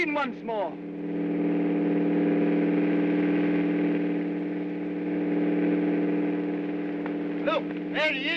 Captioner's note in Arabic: هدير الطائرة